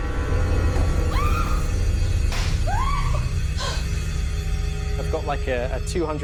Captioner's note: screaming